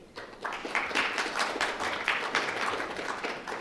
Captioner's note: applause